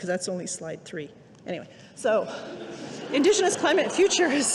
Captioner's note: audience laughing